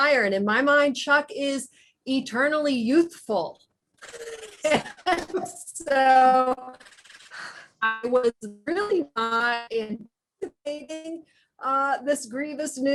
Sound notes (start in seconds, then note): 5.8 audio distorts